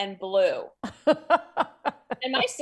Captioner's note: laughs